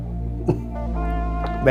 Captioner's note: giggling